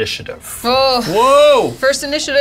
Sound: groans

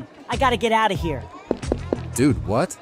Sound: footsteps

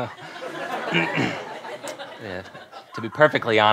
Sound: clears throat

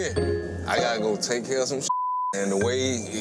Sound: beep

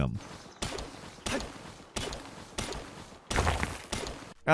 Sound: tools clang; rock shatters

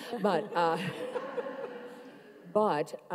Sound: everyone laughs

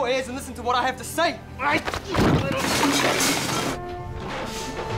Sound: crashing

